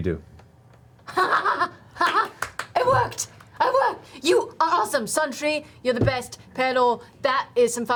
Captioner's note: laughs